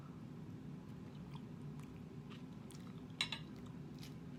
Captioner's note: chewing